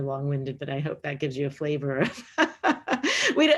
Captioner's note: laughs